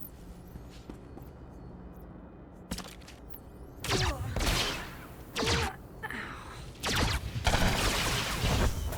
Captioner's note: gunshots